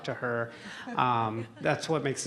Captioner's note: laughter